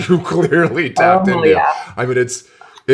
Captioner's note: laughs